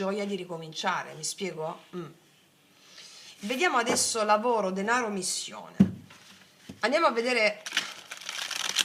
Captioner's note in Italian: schiarire la voce